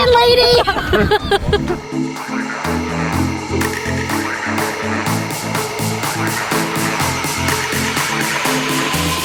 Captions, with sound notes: - Listen, lady! (laughing) (soft music)